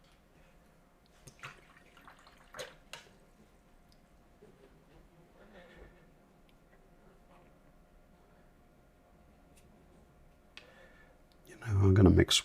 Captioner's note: silence